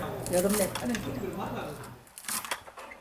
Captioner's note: sound of cutting dried anglerfish with a sickle; sound of cutting dried anglerfish with a sickle